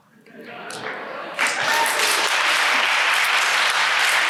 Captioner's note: applause